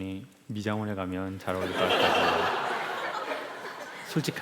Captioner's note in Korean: 웃음